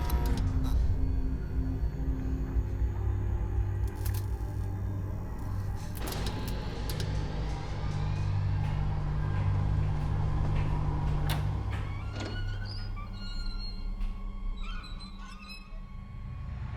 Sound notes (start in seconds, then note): 11.2 dryer door opens; 11.6 hinges squeaking